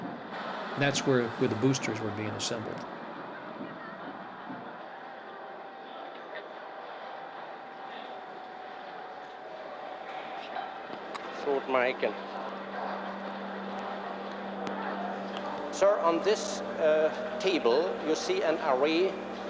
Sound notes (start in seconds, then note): 11.5 von Braun speaks softly